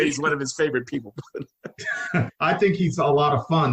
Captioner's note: laughing